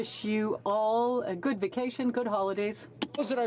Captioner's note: speaking in French